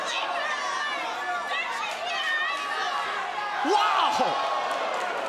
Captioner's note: crowd chatter